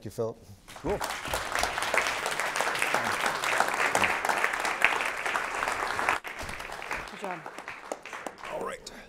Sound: applause

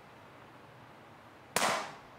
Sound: gunshot

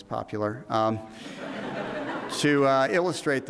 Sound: audience laughs

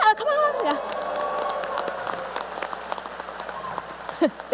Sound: applause

